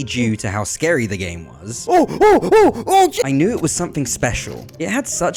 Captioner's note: panic noises